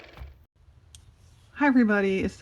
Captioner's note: car motor